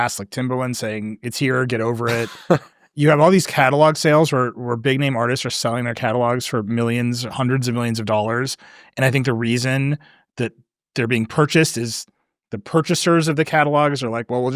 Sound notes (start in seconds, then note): 2.0 chuckling